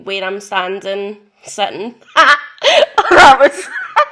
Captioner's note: chaotic laughter